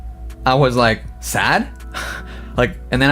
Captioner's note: laughs